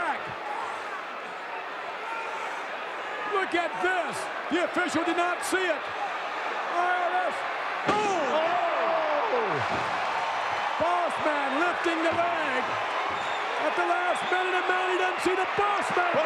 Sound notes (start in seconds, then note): 0.3 audience cheering; 8.3 audience cheering